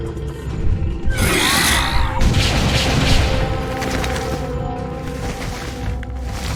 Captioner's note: creature growling; gun firing